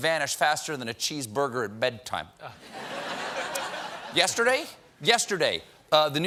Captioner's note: laughter